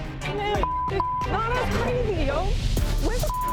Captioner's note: beep